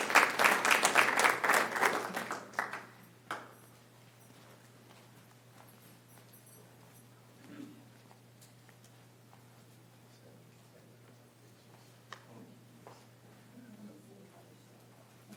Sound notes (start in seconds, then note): 7.0 applause